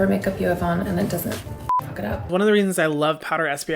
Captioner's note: beep